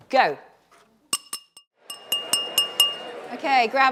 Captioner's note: clinking glass